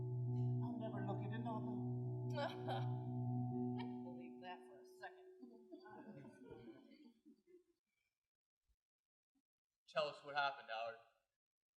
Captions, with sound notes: I'll never look at another. -Ha! I don't believe that for a second. [laughter] -Tell us what happened, Howard.